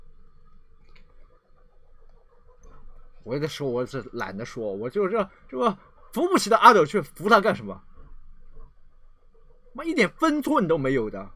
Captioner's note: dog